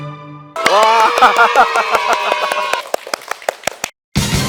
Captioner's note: clap clap clap clap clap clap clap